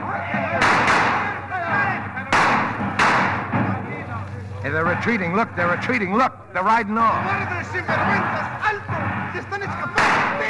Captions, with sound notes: (gunshots) They're retreating, look, they're retreating. Look, they're riding on. (speaking in foreign language)